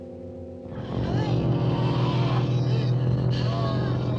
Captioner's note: low growling